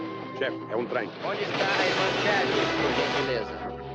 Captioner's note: train rumbling